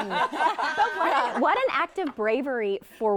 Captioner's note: hosts laughing